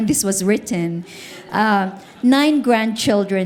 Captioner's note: audience laughing